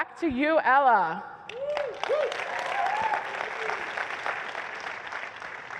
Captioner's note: applause